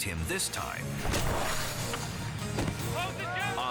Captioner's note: thudding